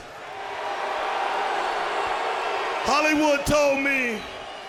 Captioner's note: crowd cheering